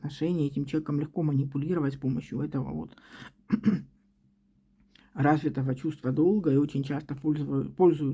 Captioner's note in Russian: откашливается